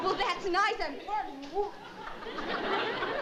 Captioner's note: mumbles; laughter